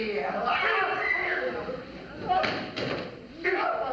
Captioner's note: screaming